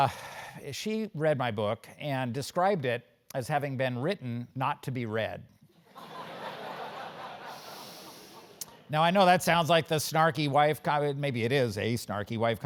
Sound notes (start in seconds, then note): 5.7 laugh